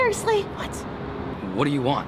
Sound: whispers

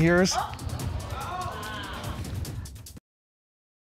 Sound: audience exclaiming

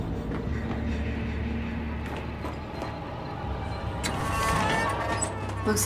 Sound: door creaks

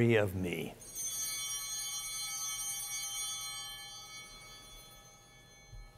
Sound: chimes ringing

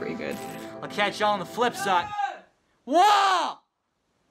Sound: shouts from downstairs

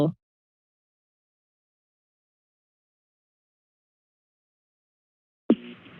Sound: silence

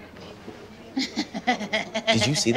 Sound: laughs

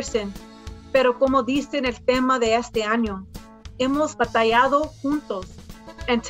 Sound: speaks in foreign language

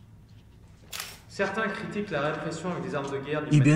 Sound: French

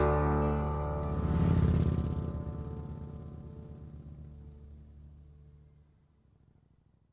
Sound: engine revving

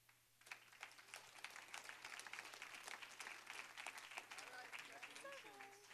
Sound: applause

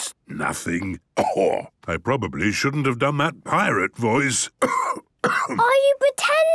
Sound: cough

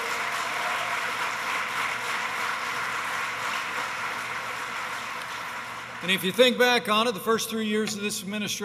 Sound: applause

